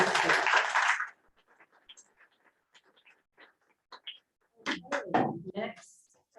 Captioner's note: applause